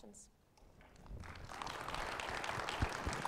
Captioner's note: audience applauds